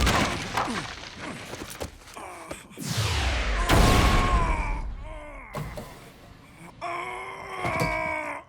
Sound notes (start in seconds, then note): 1.1 groaning; 4.0 groans loudly; 6.7 straining